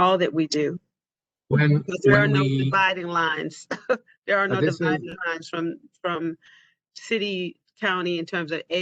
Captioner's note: laughter